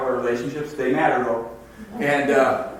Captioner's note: audience laughs